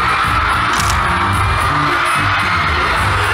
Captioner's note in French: Click, click